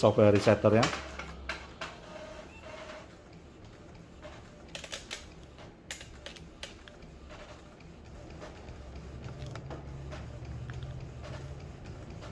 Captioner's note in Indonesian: suara mesin printer